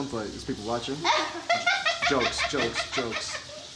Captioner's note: laughing